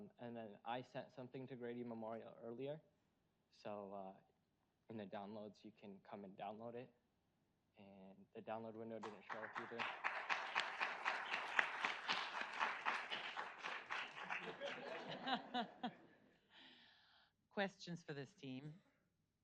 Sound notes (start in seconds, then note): 9.0 audience applauds; 14.8 audience laughs